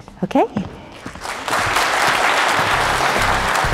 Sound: applause

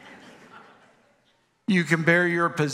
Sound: congregation laughs

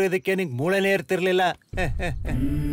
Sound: laugh

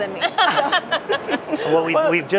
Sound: laughter

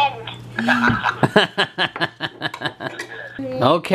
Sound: laughs

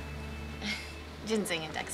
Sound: chuckles

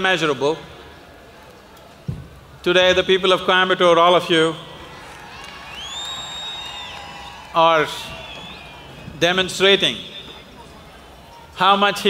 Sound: applause

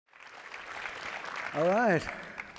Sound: audience applauding

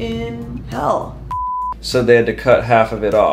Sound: screen beeps

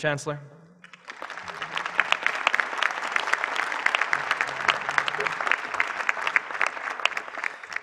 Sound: applause

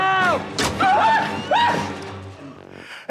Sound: squealing

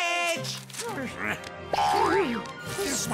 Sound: gasping

